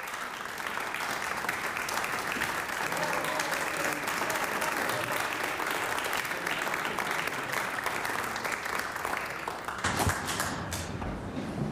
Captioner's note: applause